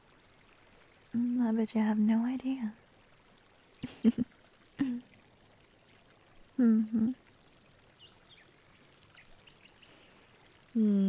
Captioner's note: chuckles